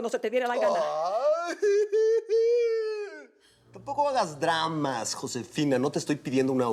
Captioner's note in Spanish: imita llanto